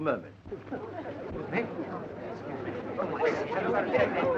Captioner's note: crowd murmuring